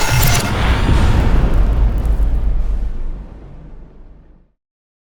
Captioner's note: impact